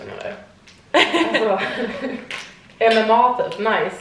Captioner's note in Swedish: Skratt